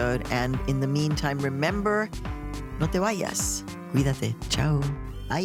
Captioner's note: speaking Spanish